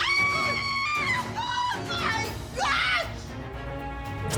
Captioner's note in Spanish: Gritos y exclamaciones